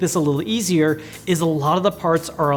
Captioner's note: none